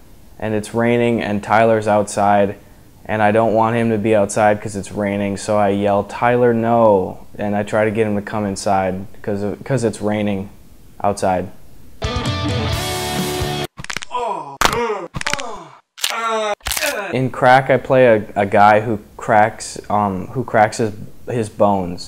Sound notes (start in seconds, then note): 12.0 rock music; 13.9 crack, with moaning noise